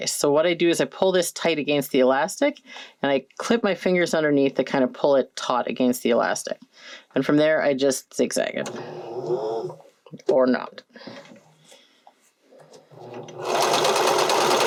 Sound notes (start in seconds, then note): 8.7 machine whirrs